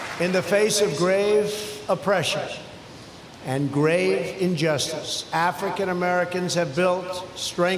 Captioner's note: applause